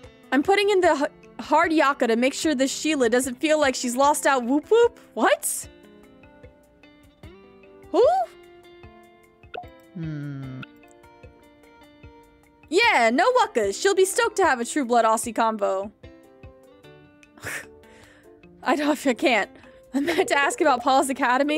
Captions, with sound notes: I'm putting in the hard yakka to make sure the sheila doesn't feel like she's lost out. Woop Woop. What? Who? Yeah, no wuckas. She'll be stoked to have a true blood Aussie convo. [Laughing] I don- I- I can't. I'm meant to ask about Paws Academy.